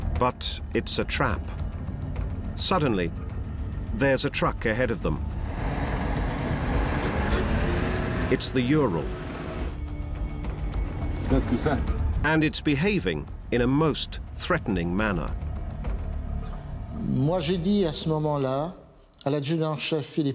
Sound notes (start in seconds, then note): 10.8 driver speaks French; 17.0 speaking French